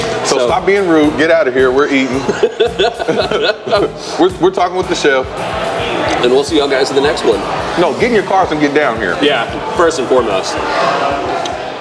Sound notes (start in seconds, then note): 2.0 laughing